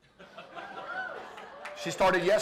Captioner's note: laughter